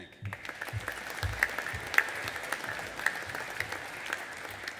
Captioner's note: audience applauding